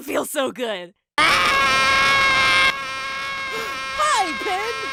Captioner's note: Pin screams; gasps